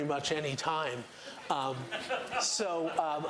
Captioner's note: laughter